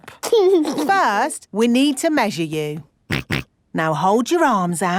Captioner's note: snorts